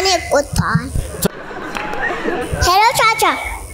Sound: laughter

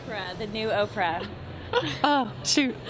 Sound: laughing

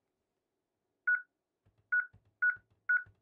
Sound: beeping

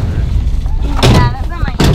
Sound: car door slam

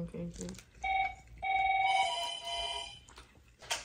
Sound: telephone rings

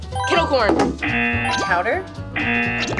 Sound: bell dings; buzzer buzzes

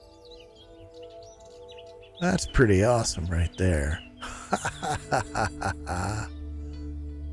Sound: laughs

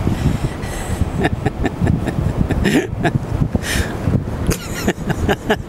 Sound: both laughing amusingly

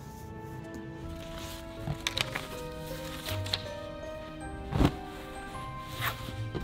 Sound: classical music; paper rustling

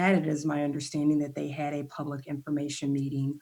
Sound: none

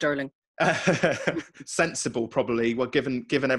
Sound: laughs

